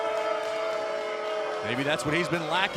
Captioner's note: crowd cheering